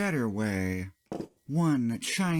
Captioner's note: thunk